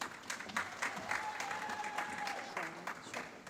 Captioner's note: applause